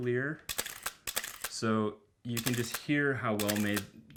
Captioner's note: shutter clicking